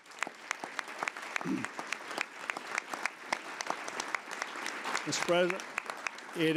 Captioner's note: applause